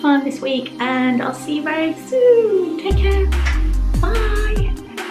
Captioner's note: kissing; gentle music